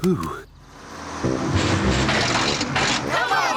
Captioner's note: bus splutters